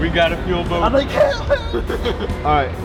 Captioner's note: squealed